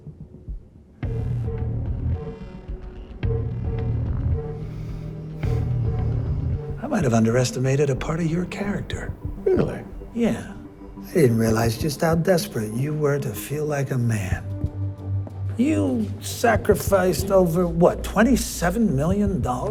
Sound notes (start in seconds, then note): 0.2 dramatic music continues; 4.6 Bobby sighs